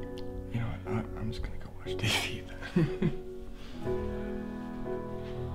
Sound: chuckles

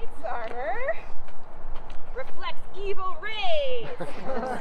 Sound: laughter

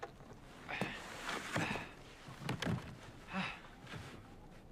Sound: Mark grunting

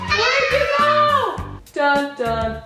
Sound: squealing

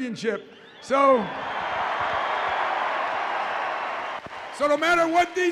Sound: audience cheers

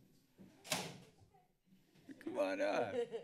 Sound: door closes; laughter

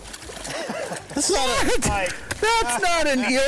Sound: group Laughs

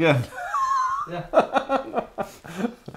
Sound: laughing

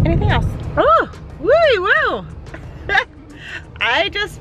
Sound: laughs

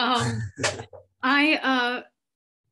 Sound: laughs

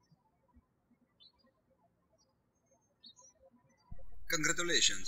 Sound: birds chirping

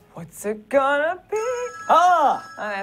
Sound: ring

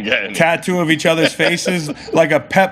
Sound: laughing

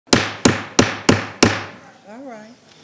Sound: gavel banging

